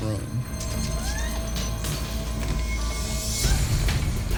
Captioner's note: objects crashing